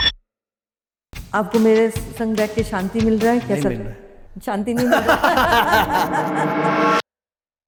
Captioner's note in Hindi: हंसी